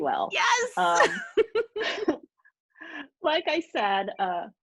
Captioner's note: laughing